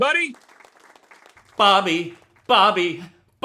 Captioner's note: audience clapping